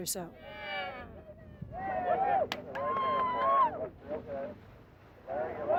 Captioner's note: cheering